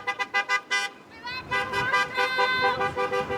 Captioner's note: horns honking